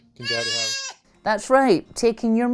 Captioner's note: cries